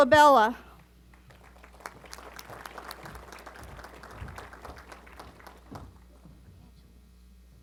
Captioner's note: applause